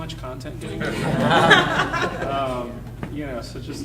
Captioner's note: audience laughing